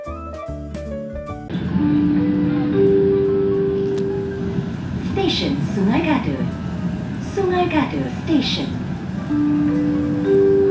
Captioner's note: train announcement